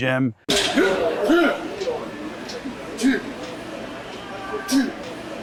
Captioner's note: bodybuilder grunting